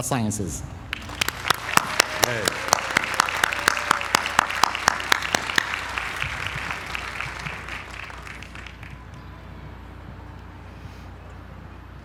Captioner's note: applause